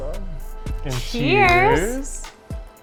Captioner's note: in Unison